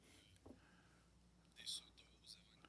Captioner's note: speaking French